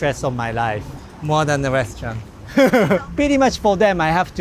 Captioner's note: laughs